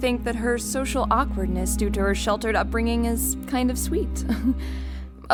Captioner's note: chuckle